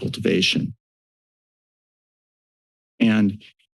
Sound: silence

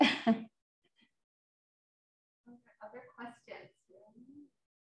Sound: laughter

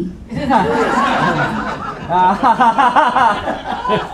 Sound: audience laughing

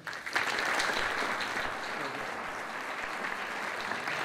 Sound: applause

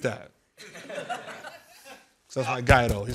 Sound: laughter

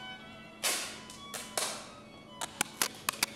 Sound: tape crackles

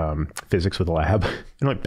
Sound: chuckling

